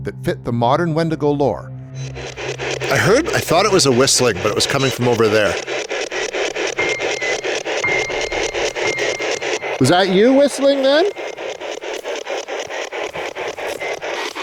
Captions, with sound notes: that fit the modern wendigo lore. I heard, I thought it was a whistling but it was coming from over there. (unsettling music) (static ticking) Was that you whistling then?